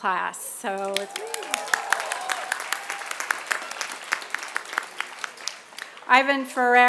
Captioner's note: applause